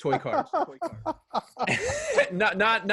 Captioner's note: laughs